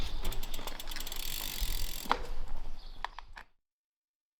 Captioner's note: bicycle chain whirs